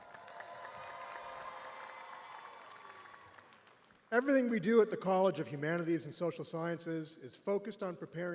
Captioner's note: cheers and applause